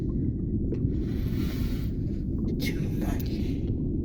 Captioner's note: dragon inhales